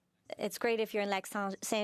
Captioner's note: speaking French